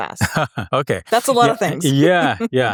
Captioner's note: laughs